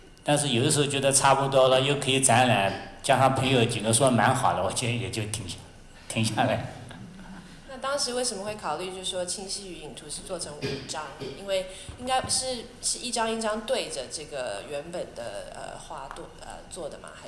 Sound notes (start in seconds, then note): 7.9 Mandarin